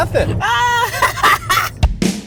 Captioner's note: laughs; upbeat music